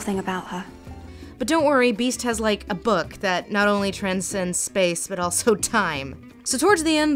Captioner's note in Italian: voce fuori campo